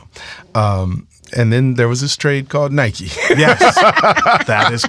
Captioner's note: all laughing